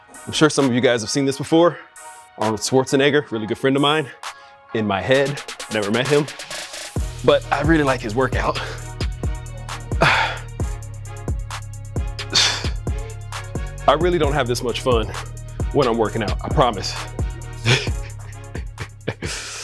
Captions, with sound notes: I'm sure some of you guys have seen this before. Arnold Schwarzenegger, really good friend of mine, in my head, never met him, but I really like his workout. (Jay breathing deeply) I really don't have this much fun when I'm working out, I promise. (laughs)